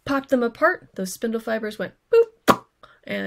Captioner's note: boop